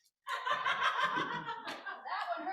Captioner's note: laughter